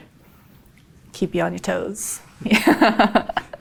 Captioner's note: laughs